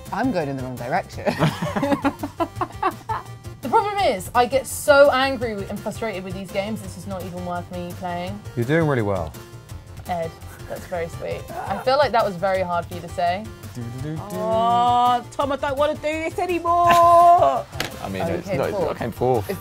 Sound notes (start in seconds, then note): 1.2 both laugh; 16.8 laughs